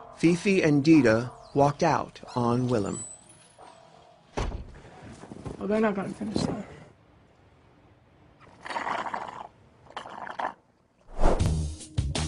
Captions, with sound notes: Phiphi and Dida walked out on Willam. then I'm gonna finish my drink. *SIPS*